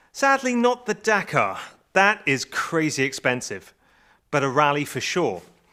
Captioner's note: none